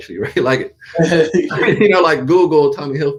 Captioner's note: both laughs